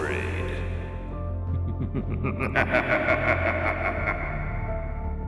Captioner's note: narrator laughs; gentle music